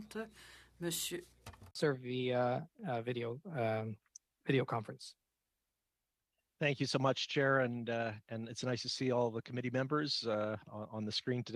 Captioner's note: speaking French